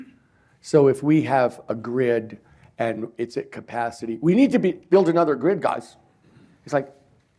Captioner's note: none